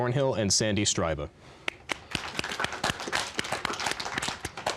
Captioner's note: applause